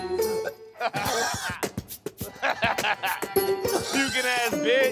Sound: laughs

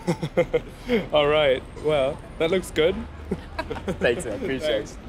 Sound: laughing

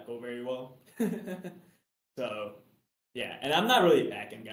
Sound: chuckles

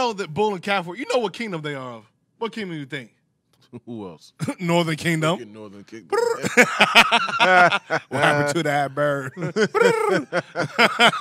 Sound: laughing

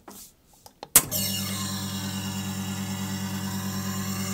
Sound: machine buzzes

